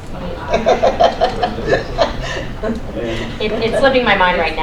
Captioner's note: laughter